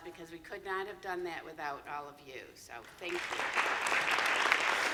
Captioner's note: applause